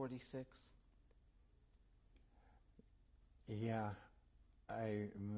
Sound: pauses for 3 seconds

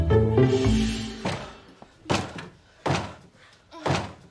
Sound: door opening and closing

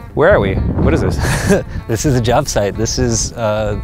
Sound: laughs

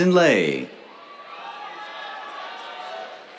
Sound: cheers

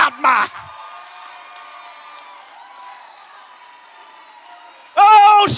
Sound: congregation shouts

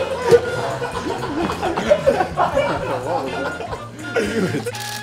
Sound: players laughing

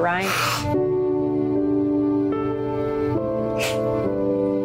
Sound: sniffles

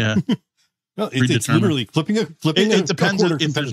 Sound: laughing

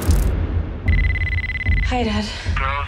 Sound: phone ringing

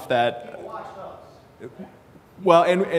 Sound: disagreement from audience

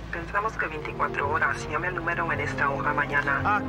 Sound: speaking spanish

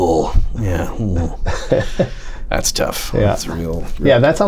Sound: laughter

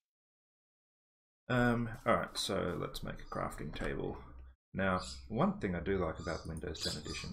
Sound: lorikeet noises

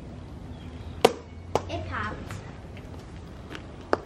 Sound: popping noise

